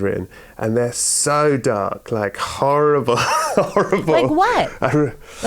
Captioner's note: laughter